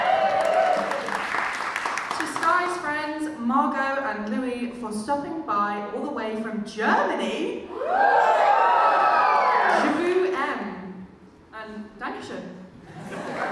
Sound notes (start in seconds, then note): 0.0 audience cheers; 7.7 audience woos